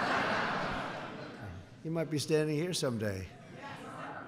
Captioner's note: laughter